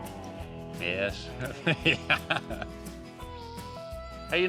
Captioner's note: laughing